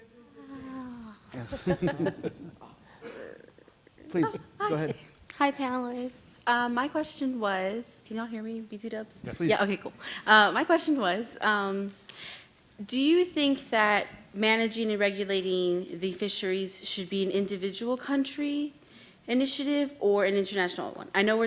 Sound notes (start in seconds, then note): 0.1 audience member sighs; 1.4 panel chuckles